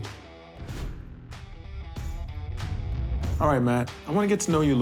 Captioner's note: air whooshing